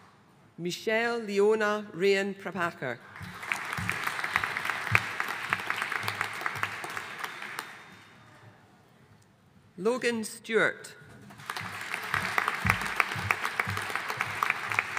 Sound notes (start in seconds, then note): 3.1 audience applauding; 11.3 audience applauding